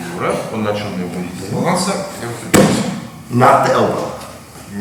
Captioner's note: speaking in a foreign language